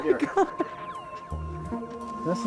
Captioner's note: crying